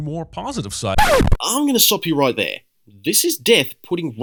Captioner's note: record scratch